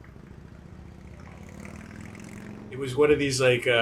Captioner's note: motorcycle revving